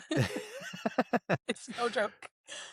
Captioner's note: laughs